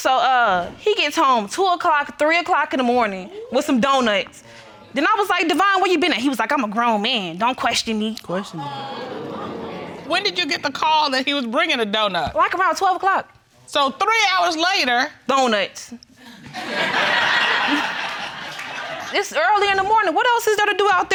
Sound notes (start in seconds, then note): 16.2 crowd laughing